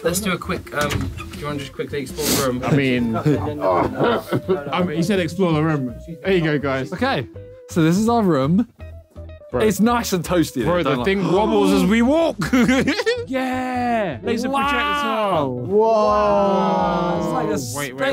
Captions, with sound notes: - Let's do a quick, do you want to just quickly explore the room? - I mean, he said explore room. There you go guys. - Okay. So this is our room. It's nice and toasty in here. - Bro, the thing wobbles as we walk. [laughing] - Yeah, laser projector. - Whoa. - It's like a spaceship.